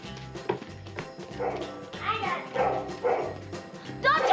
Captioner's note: barking